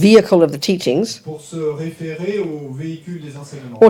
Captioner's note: audience member speaks in French